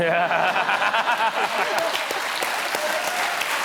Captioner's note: laughter